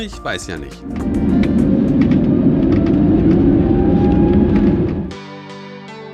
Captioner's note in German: Geräusche der Turbinen